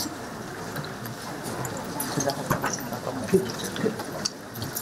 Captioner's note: chattering